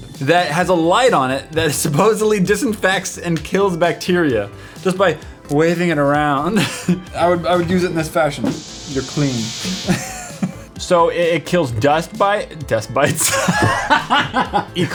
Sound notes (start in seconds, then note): 6.5 laugh; 10.4 laugh; 13.3 wheezing laugh